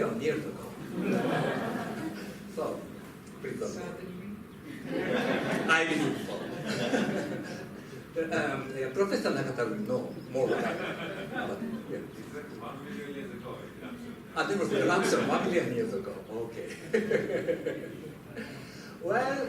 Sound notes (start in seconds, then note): 0.8 laughter; 4.7 laughter; 9.7 laughter